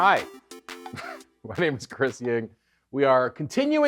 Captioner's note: chuckles